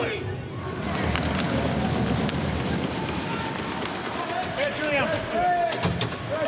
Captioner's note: skating and puck being hit